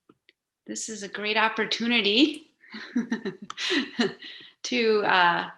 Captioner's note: laughing